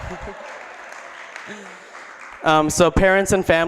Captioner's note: applause